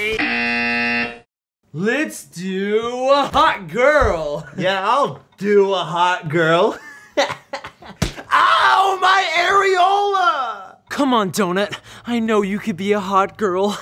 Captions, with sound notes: [buzzer goes off] Let's do....a hot girl. Yeah, I'll "do" a hot girl. [chuckles] [smack] Ow! My areola! Come on, doughnut. I know you can be a hot girl.